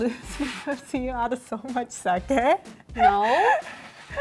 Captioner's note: laughter